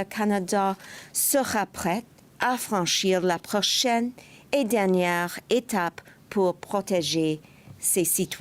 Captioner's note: speaking French